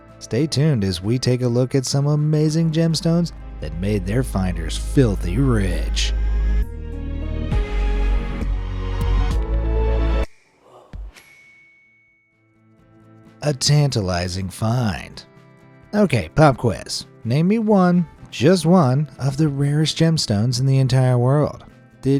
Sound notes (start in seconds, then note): 6.8 light suspenseful music; 11.2 bell dings